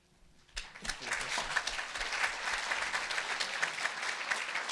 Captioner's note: audience applauding